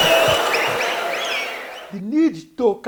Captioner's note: wild applause and cheering for 22 seconds